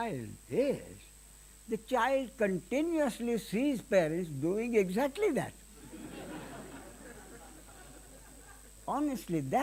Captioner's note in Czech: smích